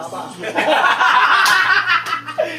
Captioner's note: ALL laughs